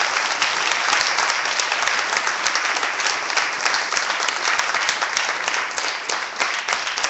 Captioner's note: clapping